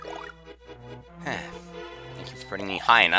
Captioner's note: sigh